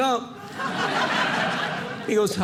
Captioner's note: audience laughing